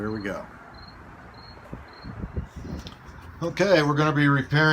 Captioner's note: insects chirping